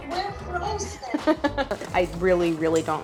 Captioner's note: Claire chuckles